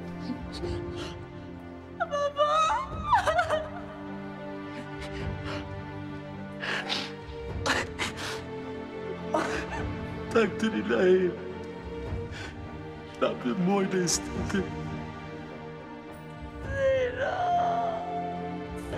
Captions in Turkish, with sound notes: Baba! (Ağlıyor.) (Ağlıyorlar.) Takdiriilahi. Rabb'im böyle istedi. Zehra.